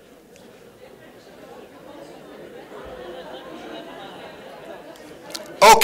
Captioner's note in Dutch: het publiek begint te lachen